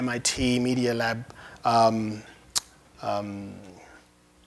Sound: none

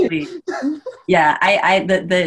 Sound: chuckles

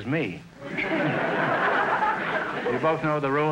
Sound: audience laughter

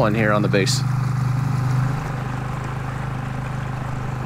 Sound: engine putters

